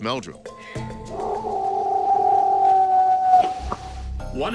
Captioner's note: howling, knocking